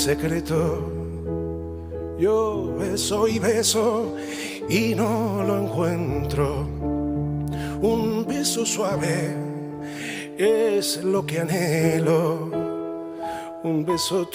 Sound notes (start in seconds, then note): none